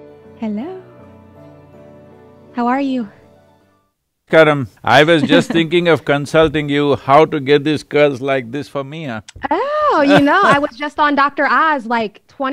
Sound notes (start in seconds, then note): 5.2 laughs; 9.9 Sadhguru laughs